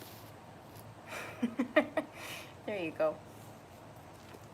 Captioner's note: laughing